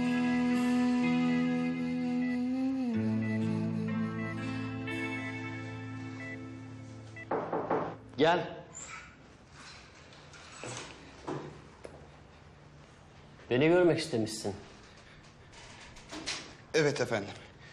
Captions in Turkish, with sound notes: (Kapı çalıyor.) Gel. Beni görmek istemişsin. Evet efendim.